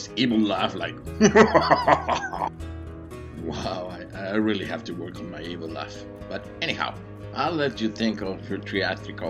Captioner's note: evil? laugh sound